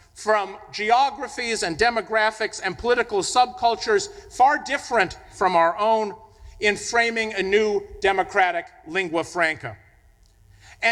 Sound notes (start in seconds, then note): none